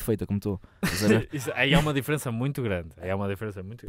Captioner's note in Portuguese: risos